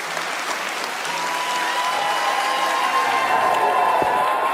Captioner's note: audience cheering